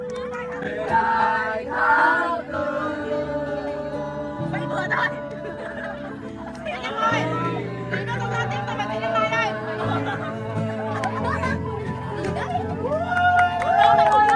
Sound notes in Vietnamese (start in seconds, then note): 2.5 Tiếng cười